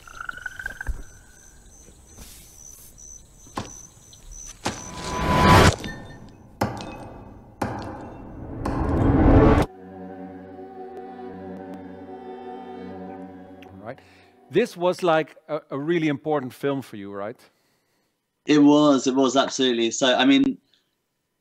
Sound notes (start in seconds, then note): 4.6 sound effects